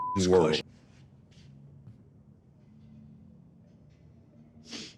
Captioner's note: beep; Butcher sniffing; Butcher sniffs loudly